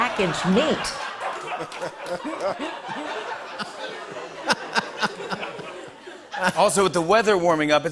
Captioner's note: laughter and applause